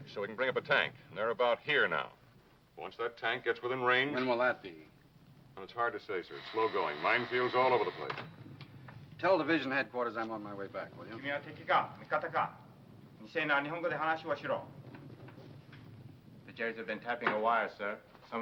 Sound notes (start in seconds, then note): 6.3 phone ringing; 11.4 speaking foreign language